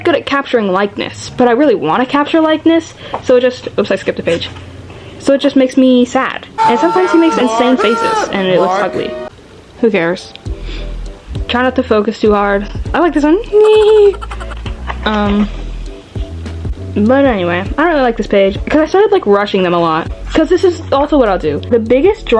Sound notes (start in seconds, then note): 6.5 screaming; 13.6 chipmunk laugh